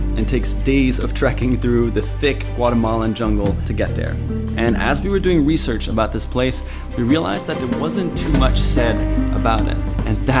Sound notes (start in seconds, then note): none